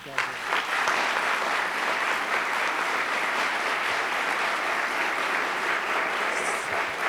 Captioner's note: applause